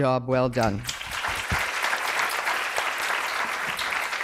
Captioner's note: applause